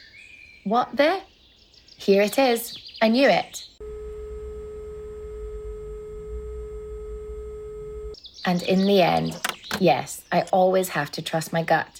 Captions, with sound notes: What the... Here it is. I knew it. [No signal sound] And in the end, yes, I always have to trust my gut.